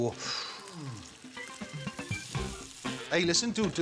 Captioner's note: bacon sizzling